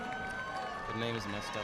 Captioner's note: audience cheering and applauding